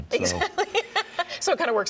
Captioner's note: laughs